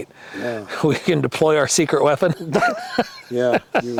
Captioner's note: laughs